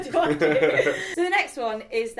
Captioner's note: both chuckle